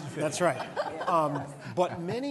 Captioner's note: laughter